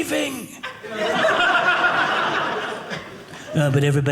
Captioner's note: audience laughing